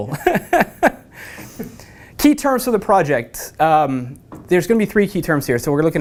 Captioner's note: laugh